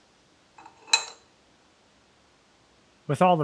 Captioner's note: metal clanking